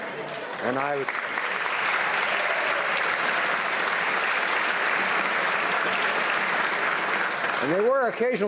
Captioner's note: applause